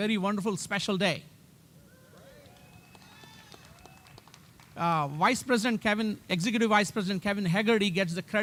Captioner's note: applause